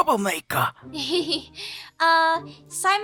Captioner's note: awkward laugh